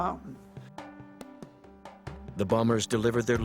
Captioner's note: voiceover